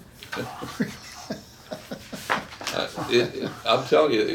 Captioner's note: chuckles